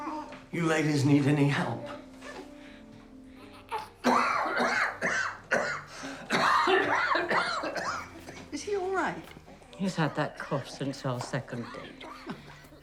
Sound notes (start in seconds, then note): 3.4 coughing